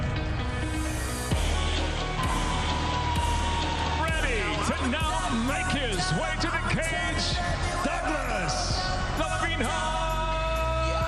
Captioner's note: cheers and applause